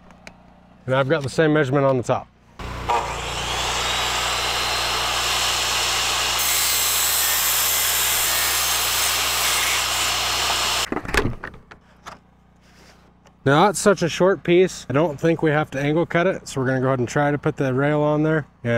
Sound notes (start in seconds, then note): 2.6 saw whirring; 10.9 boards clattering